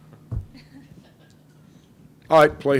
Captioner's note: crowd laughs